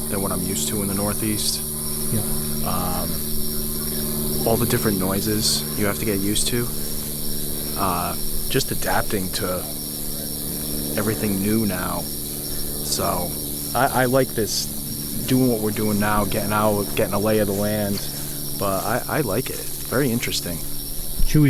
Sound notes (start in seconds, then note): 3.2 drone buzzing; 3.2 insects chirping